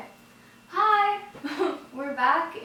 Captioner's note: laughs softly